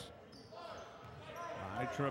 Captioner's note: shoes squeaking; yelling